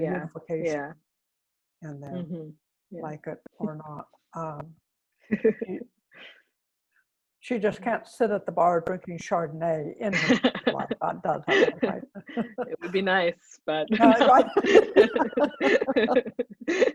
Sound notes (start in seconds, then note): 5.3 laughter; 10.1 laughter